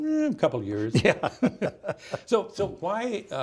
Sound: both laughing

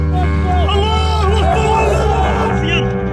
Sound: screams in Arabic

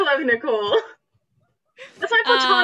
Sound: laughs

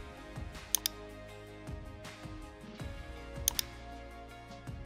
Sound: mouse clicking

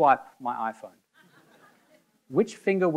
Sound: audience laughing

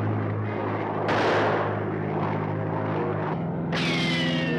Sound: suspenseful music; rifle firing; suspenseful music

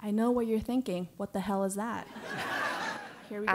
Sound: laugh

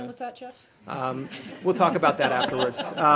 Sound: laughter

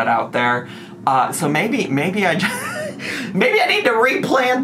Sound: chortles

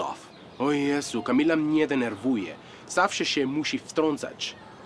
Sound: speaks in foreign language

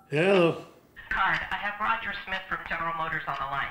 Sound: voice on phone

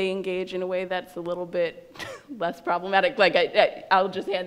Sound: laughs

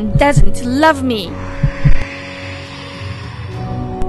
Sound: thump

